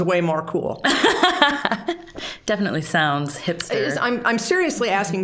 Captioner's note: laughing